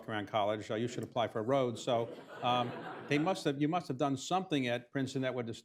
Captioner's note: laughter